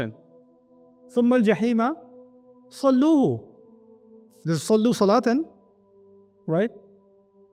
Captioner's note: Arabic